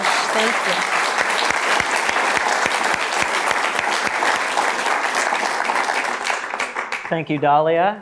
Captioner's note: applause